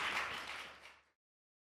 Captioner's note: applause